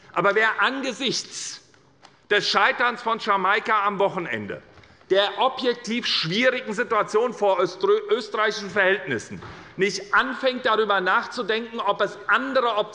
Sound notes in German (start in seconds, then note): none